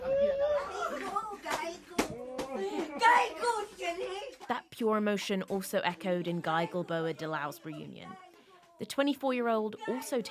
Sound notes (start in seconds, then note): 2.2 crying; 4.4 speaking Alternate Language